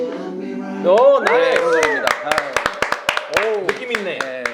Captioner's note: applause